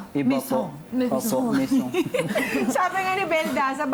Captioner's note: laughter